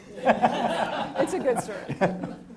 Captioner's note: audience laughing